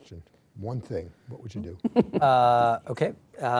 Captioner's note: laughs